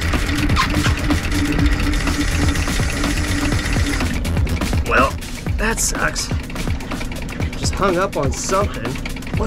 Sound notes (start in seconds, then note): 1.8 motor continues whirring; 1.8 upbeat music continues